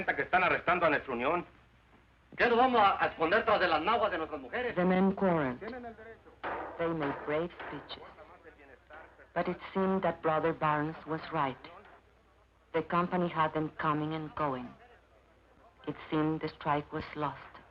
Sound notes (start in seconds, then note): 1.9 man speaking Spanish